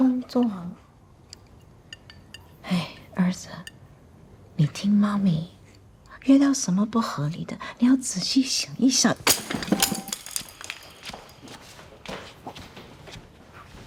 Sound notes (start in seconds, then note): 9.1 chopsticks rattle